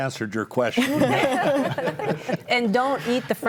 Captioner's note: group laughs